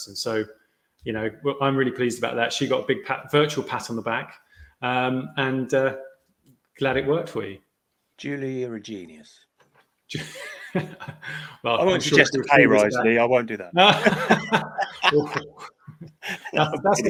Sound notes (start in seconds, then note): 10.1 laughs; 13.8 both laughing